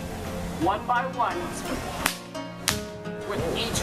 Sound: whip snapping

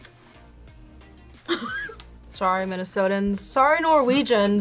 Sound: laughs

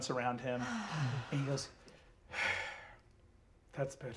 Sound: sighs

